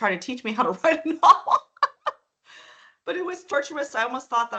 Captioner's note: laughing